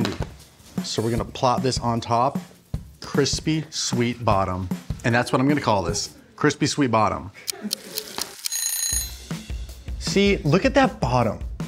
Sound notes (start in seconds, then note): 7.5 timer Ticking; 8.4 timer Ringing